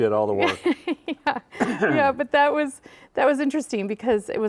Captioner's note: laughing